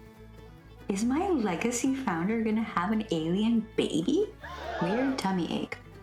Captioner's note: crowd gasp